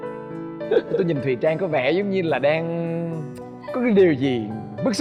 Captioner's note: laughing